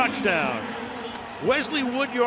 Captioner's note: pa announcement